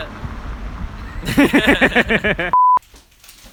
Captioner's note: laughing